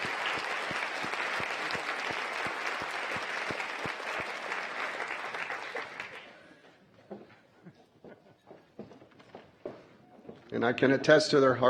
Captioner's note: applause